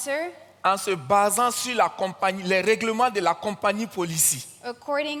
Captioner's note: continues in French